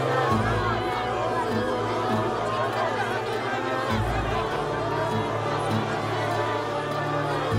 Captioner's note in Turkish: Kalabalık bağrışma sesleri